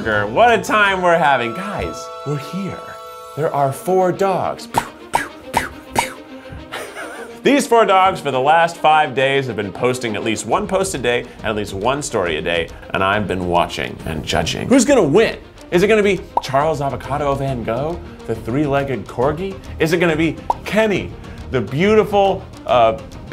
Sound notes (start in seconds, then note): 4.8 imitating gun noises; 6.4 laughs